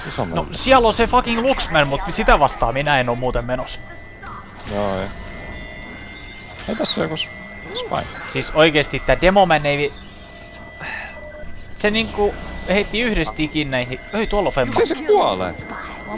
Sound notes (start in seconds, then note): 10.8 sigh